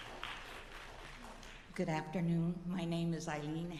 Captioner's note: applause